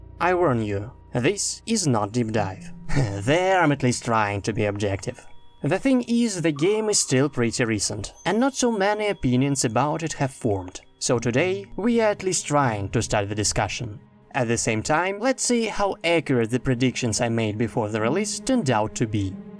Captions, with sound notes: I warn you, this is not Deep Dive. [laugh] There, I'm at least trying to be objective. The thing is, the game is still pretty recent and not so many opinions about it have formed. So today we at least trying to start the discussion. At the same time, let's see how accurate the predictions I made before the release turned out to be.